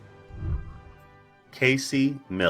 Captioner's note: whooshing